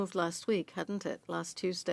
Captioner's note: speaking French